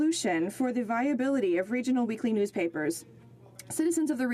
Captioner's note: speaking French